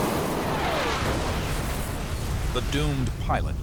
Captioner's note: explosion